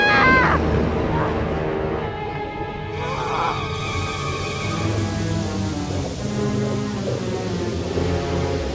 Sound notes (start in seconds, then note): 2.8 evaporating fleshy sounds